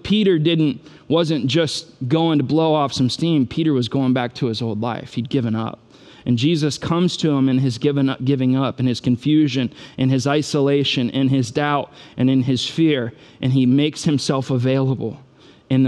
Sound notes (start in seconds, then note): none